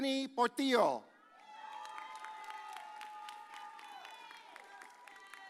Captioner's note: audience cheers